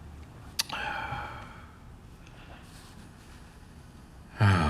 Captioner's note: Chuck sighs